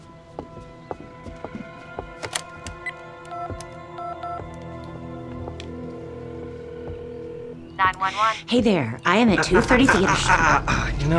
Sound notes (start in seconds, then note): 2.8 beeping; 5.5 ringing; 7.7 on phone